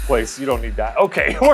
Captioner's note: laughs